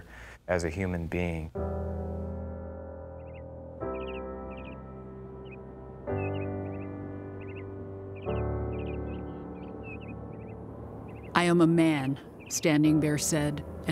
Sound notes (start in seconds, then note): 1.3 instrumental music; 3.0 birds